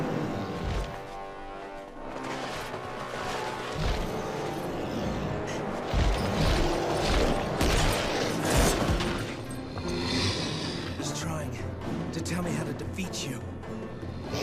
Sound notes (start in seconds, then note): 0.1 foreboding music; 9.0 suspenseful music; 9.8 sphinx growling